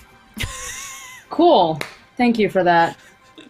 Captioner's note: laughs